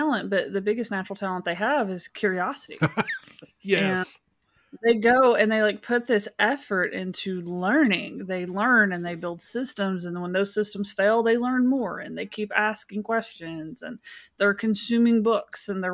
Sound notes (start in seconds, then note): 2.7 laughs